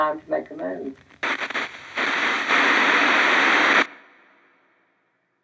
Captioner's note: static crackling